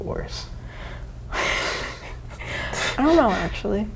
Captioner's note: laughs